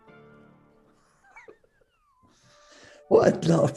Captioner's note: quiet giggling